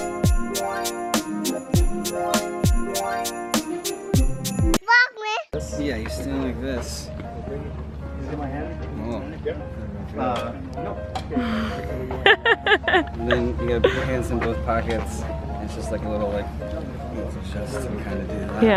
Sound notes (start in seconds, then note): 11.3 mom laughing